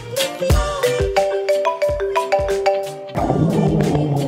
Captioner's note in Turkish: Telefon çalma sesi